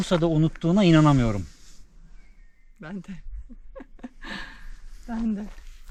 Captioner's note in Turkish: kahkaha